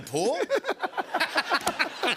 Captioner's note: laughter